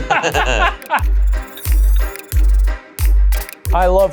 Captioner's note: group laughs